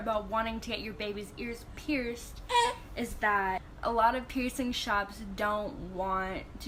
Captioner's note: her baby makes a noise